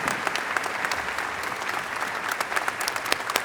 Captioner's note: applause